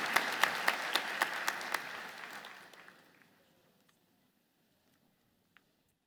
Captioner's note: audience applauding fades